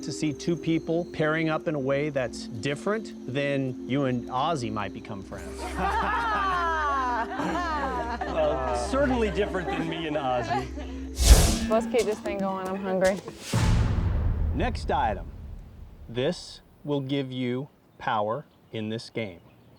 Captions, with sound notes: to see two people pairing up in a way that's different than, you and Ozzy might become friends? (everyone laughs) - Certainly different than me and Ozzy. - Let's get this thing going. I'm hungry. - Next item. This will give you power in this game.